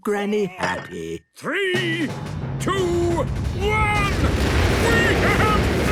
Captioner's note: rockets igniting